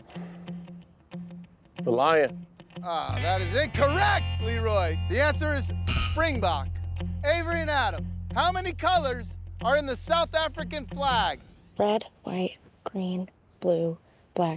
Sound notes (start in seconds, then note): 0.0 sighs; 2.9 groans